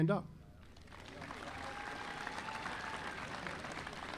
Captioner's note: audience applauding